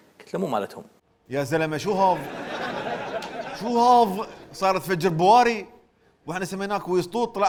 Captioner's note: Saudi accent